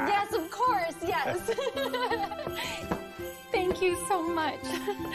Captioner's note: giggles